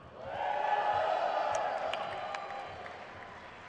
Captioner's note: crowd cheers